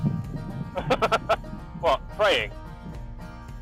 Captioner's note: laughs